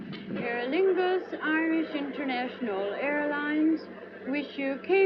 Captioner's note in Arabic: مكبر الصوت